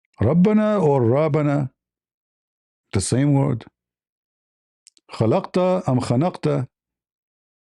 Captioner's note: Arabic